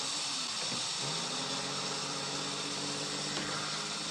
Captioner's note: car engine revving